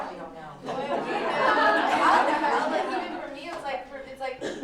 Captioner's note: laughter